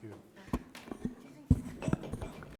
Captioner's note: people chattering indistinctly